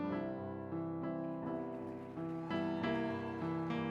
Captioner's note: applause